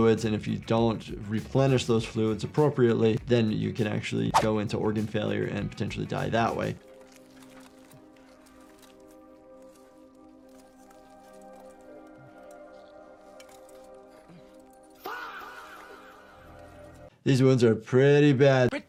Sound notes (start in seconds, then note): 6.3 armor rustling; 6.9 melancholy music; 15.0 Aegon screaming